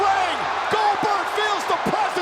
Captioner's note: audience cheers